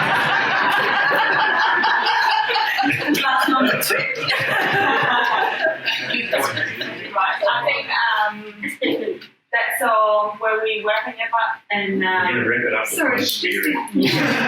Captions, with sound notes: [Laughter] That's so where we are...